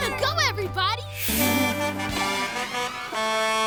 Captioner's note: honking